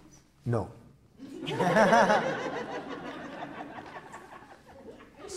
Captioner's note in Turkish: Gülüşmeler